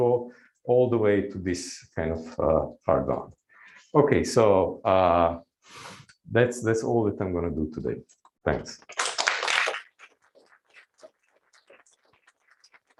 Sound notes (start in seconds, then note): 8.9 applause